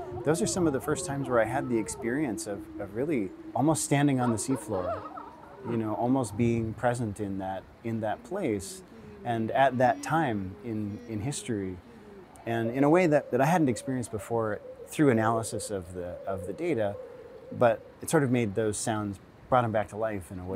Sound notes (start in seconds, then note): none